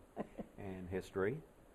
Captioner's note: laughter